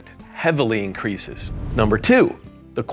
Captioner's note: air whooshing